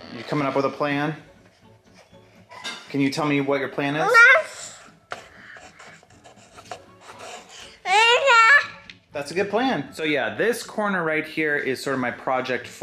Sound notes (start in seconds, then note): 7.8 child babbling